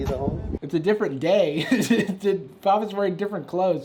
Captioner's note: chuckles